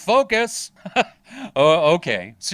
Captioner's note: laughing